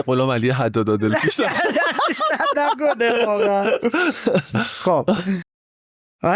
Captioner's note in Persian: خنده